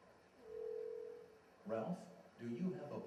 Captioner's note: phone ringing